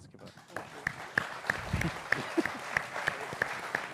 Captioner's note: applause